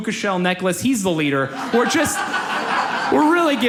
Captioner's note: audience laughs